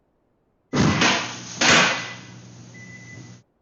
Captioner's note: clatter